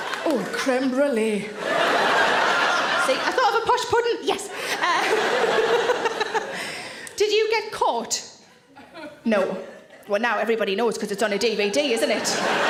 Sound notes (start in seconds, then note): 1.5 audience laughing; 4.8 all laugh; 11.4 audience laughing